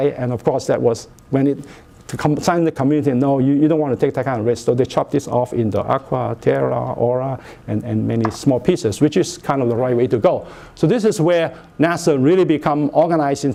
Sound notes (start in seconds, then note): none